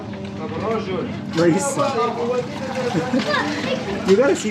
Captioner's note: laughs